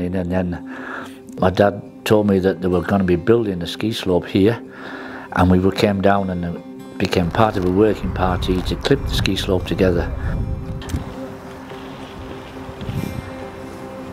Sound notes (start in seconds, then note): 11.0 wind blowing